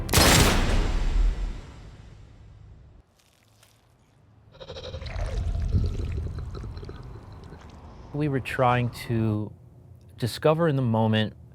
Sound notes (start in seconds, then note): 0.0 gunshot booming; 4.5 body gurgling